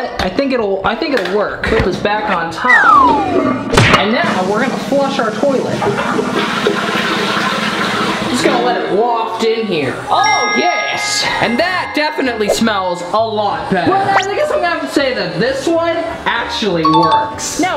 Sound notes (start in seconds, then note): 4.0 drum roll sound effect; 7.5 toilet flushing